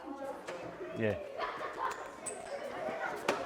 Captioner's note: students laughing